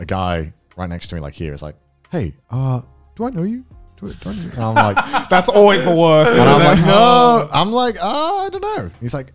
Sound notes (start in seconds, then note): 4.4 laughs